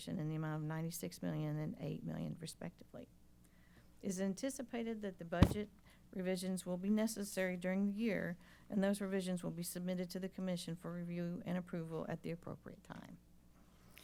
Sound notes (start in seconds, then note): none